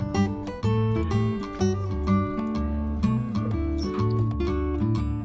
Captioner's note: laughs